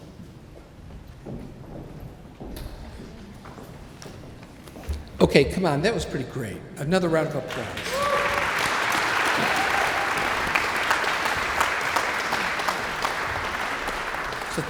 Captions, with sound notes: - Okay, come on, that was pretty great. Another round of applause. (audience applauds)